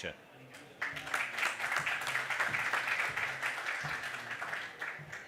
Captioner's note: audience applause